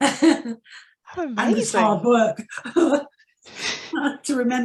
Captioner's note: laughs